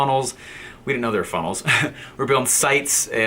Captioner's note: laughs